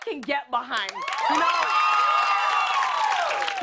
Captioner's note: cheers and applause